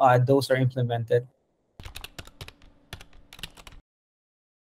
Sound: typing

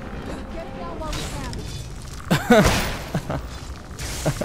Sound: laughs

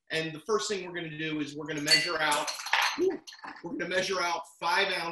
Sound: glass falls

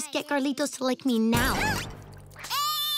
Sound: slam; crying

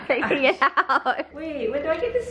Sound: laughing

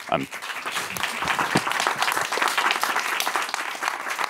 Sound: applause

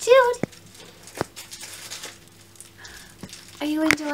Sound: more crinkling

